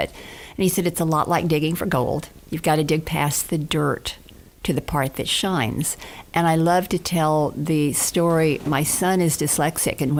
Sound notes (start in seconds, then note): none